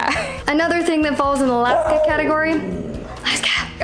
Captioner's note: Laska barking